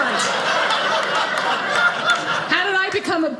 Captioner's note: audience laughing